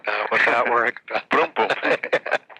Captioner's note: laughing